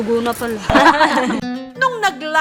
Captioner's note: laughs